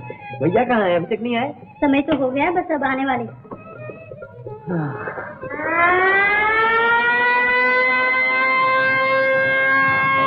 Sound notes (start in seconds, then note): 4.5 sighs; 4.8 mill siren blares